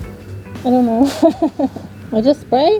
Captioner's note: laughs